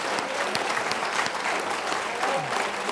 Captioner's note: applause